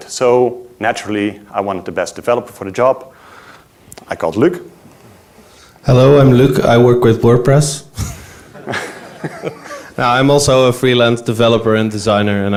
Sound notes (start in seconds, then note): 8.0 laughs; 8.2 audience laughs